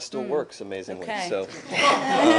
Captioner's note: laughter